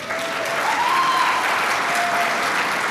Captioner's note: applause